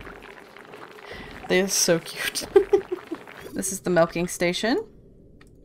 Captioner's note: giggles